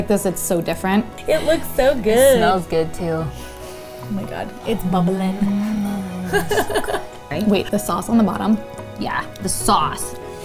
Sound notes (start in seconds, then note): 6.2 laughs